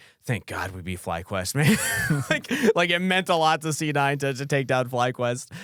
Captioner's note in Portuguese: risos